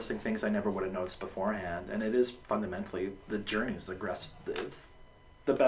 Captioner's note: stammers